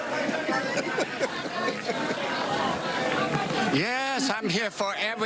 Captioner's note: laughter